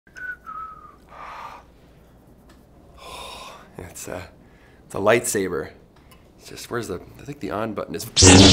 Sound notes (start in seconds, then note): 0.1 whistles